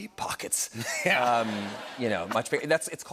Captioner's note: laughter